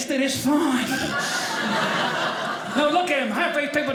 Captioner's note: audience laughing